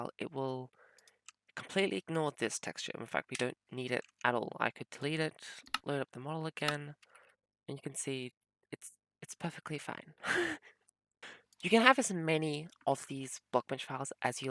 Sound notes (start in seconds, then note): 10.8 laughs